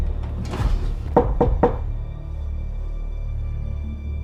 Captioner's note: knocking